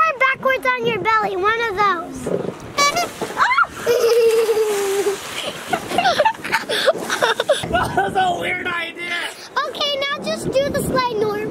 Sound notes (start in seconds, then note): 2.8 horn honks; 4.8 water splash